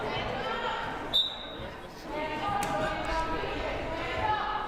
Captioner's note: whistle blaring